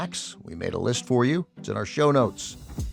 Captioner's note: none